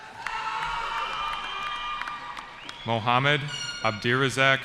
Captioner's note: cheering